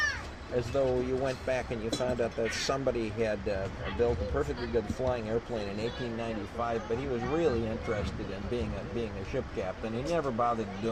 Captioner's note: laughs